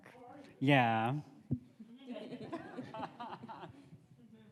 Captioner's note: audience laughs